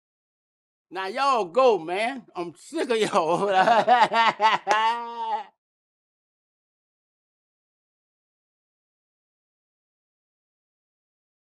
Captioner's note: laughter